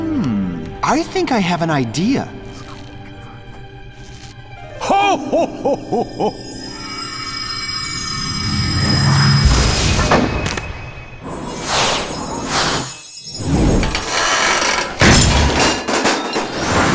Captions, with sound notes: Hm. I think I have an idea. [whispers] Ho ho ho ho! [wind whistles] [whoosh] [crash]